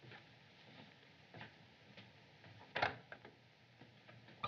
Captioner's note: opens Door